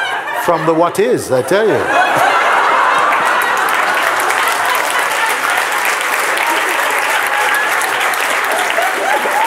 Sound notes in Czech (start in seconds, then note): 0.0 smích; 1.6 smích a potlesk